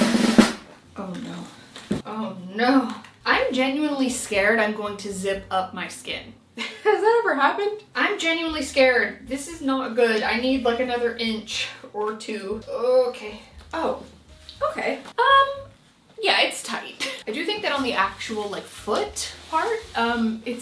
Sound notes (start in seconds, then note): 6.7 laughing